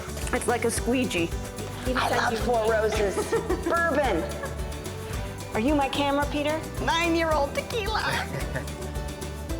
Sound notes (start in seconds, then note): 8.1 chuckles